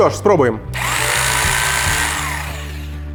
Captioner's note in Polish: dźwięk młotowiertarki